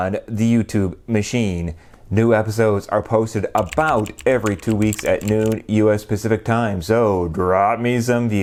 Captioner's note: typing